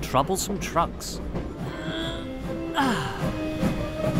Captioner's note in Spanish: suspira